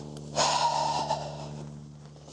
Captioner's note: sigh